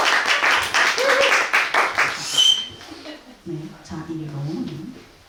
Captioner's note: louder applause and cheers; whistling sound